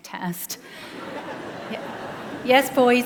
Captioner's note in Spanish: Risas